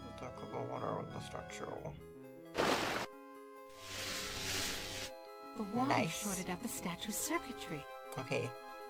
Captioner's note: imitates soundtrack